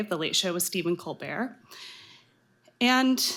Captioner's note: none